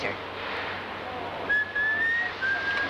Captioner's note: whistling